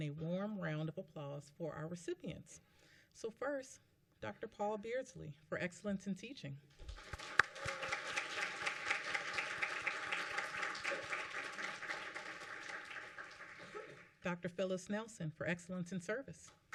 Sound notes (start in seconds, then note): 6.8 applause